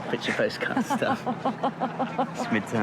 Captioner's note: Jen laughs